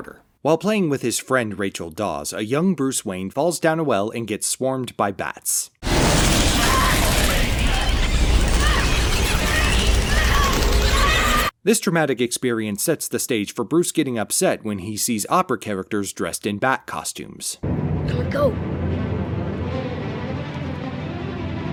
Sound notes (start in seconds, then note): 5.9 screeching bats, fluttering wings, frightened cries